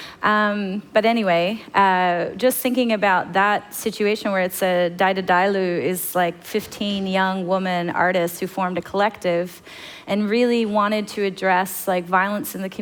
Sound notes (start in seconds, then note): 5.2 foreign language